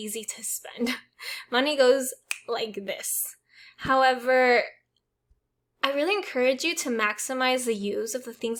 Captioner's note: snaps fingers